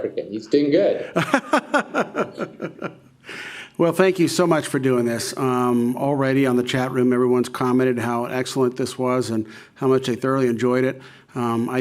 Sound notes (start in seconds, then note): 1.0 laughing